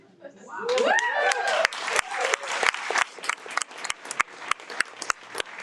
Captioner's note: audience cheers and applauds